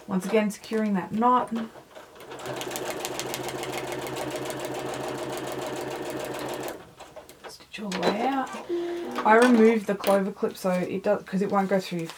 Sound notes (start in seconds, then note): 2.6 sewing machine whirring